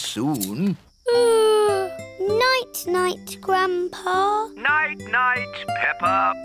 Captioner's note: yawns